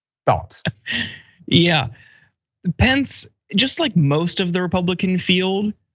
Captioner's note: laugh